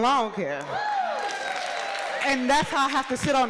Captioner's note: audience cheering